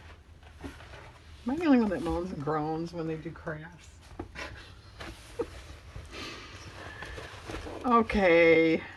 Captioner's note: laughs